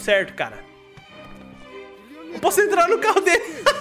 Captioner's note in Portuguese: risos